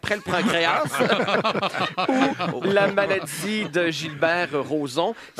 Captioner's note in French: rires